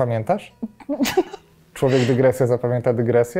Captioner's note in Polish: śmiech